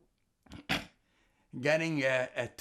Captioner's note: sneezing